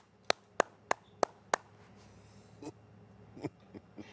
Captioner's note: clapping